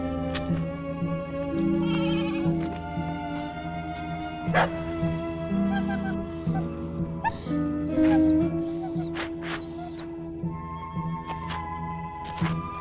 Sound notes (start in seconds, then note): 4.5 dog barking; 5.7 dog whimpering; 9.9 pensive music